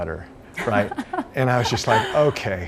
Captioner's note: hostess laughs